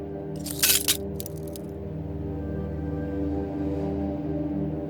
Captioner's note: glass cracking